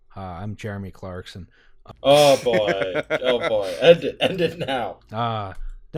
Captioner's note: laughter